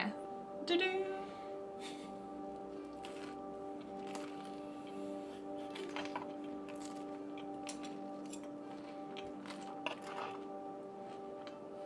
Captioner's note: chuckles